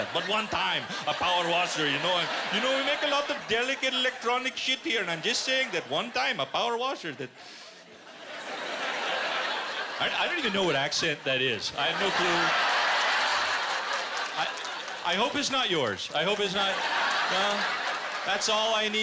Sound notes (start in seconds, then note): 8.3 laughter; 12.1 laughter and applause